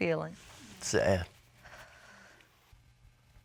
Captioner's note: sighs